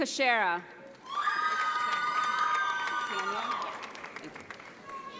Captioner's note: audience applauds